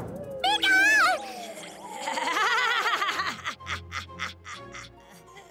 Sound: laughing

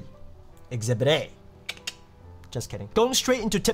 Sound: clicks tongue

